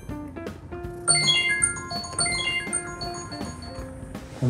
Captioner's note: alarm clock sound